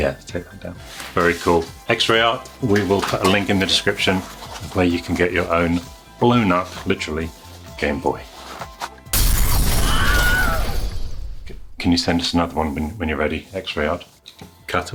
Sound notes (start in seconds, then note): 9.1 glass breaking; 9.2 Wilhelm scream